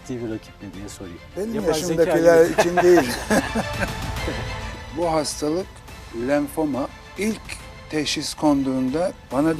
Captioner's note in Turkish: kahkaha